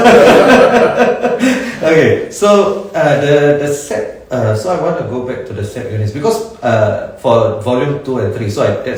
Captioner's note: both laugh